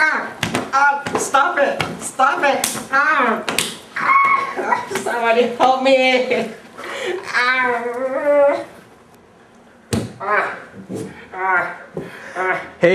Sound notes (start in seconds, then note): 0.1 groaning; 4.0 shrieking; 7.2 groans